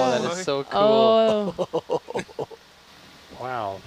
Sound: laughing

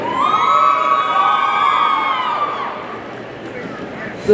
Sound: audience cheering

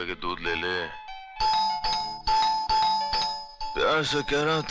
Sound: door Bell

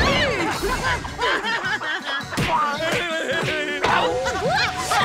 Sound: laughter

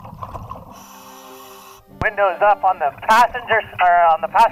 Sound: breathing

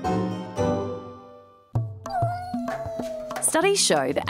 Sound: cat miaows

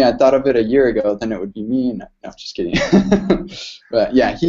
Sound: laughs

